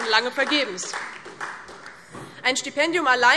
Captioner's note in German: Beifall DIE LINKE und SPD